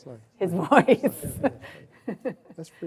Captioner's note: laughing